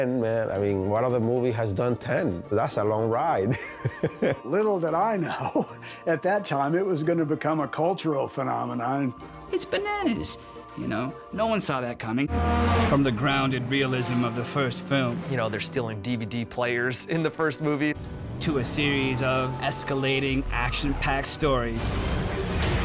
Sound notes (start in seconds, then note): 3.5 laughs; 6.2 chuckles